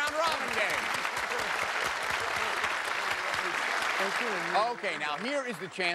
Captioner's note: applause